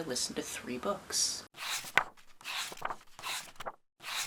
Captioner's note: page turning